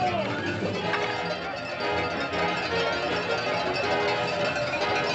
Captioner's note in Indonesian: Tepuk tangan